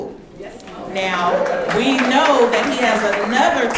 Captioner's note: audience clapping